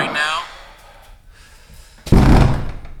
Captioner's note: manny growls and sighs